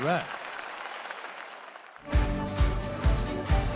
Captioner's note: applause fades